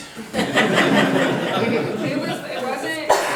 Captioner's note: group laughing